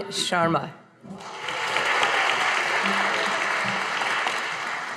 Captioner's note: audience applauding